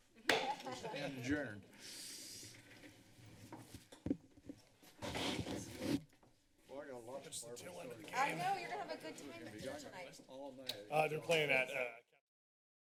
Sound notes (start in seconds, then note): 0.4 laughter; 6.6 background conversations; 12.4 silence